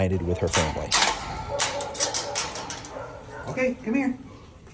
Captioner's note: gate clacks